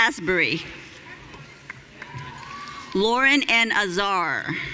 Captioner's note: audience cheering